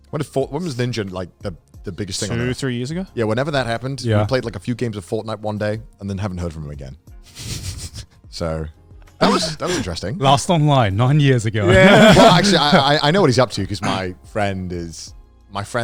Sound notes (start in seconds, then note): 7.4 laughing; 11.6 laughing